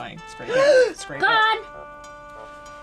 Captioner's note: gasping